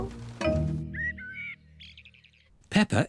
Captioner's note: birds chirping